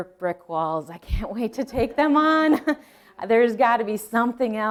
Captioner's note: laughing